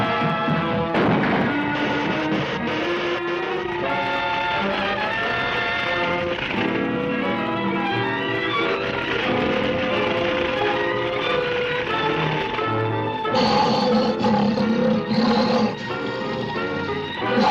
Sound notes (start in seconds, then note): 1.2 ladder thuds; 2.0 electricity zaps; 4.0 fire rustling; 4.0 light dramatic music; 13.2 gorilla snarls